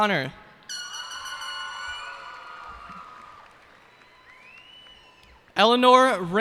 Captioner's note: cheers and applause